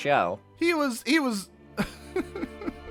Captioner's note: sobbing